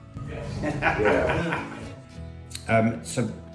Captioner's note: laughter